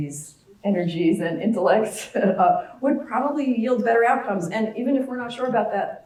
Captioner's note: laugh